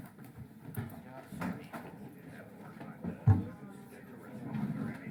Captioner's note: general chatter